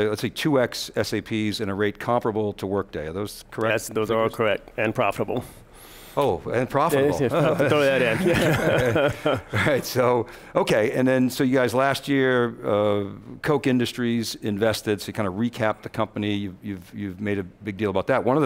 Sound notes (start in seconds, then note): 7.2 all laugh